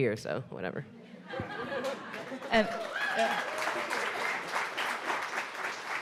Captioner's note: audience laughs and applauds